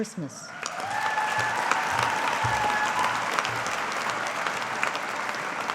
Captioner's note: audience applauding